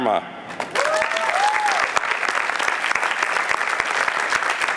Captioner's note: applause